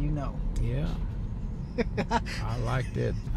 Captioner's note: laughs